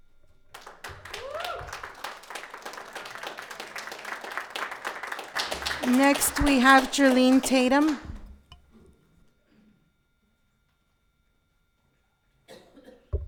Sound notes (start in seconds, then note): 0.5 audience applauding; 0.6 audience cheering